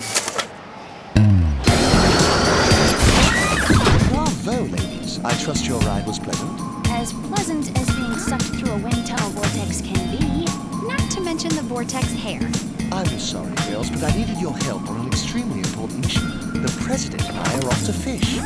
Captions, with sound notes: [all scream] Bravo, ladies! I trust your ride was pleasant? As pleasant as being sucked through a windtunnel vortex can be. Not to mention the vortex hair. I'm sorry, girls, but I needed your help on a extremely important mission.